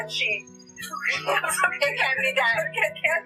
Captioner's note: laughter